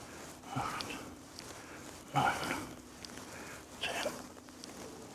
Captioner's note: quietly